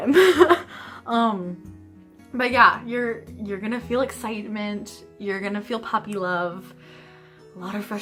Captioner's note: laughter